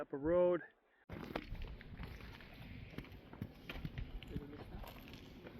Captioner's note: wind blowing